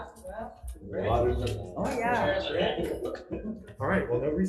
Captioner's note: everyone talking